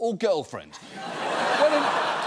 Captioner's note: audience laughs